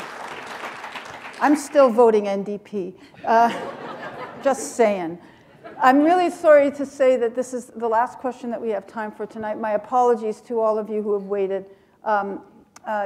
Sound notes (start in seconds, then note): 3.2 laughter